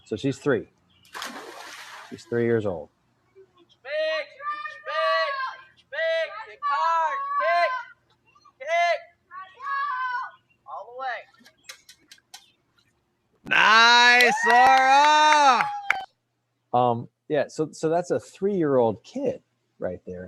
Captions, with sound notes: So she's three, she's three years old. (speakers yelling in the background) - Nice Sarah. - Yeah, so that's a three-year-old kid right